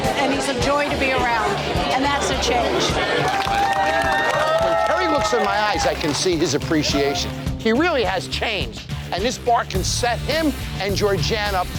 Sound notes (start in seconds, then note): 2.6 patrons cheering